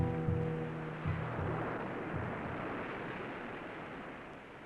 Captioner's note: waves crashing